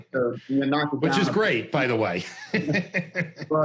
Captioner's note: laughs